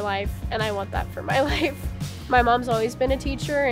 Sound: laughs

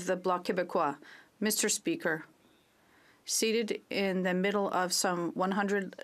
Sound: speaking French

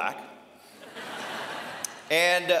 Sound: laughter

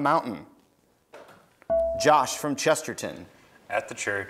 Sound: buzzer beeps

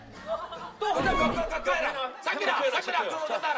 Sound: yelling / We can't lose like this!

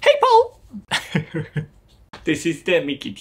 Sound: chuckles

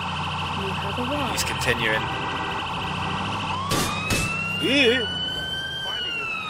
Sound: gunshots

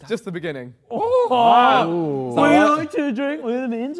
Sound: Sidemen gasp

